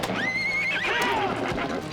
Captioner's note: horse whinnies